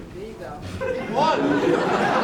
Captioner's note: audience laughing